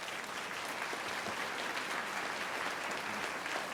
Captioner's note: applause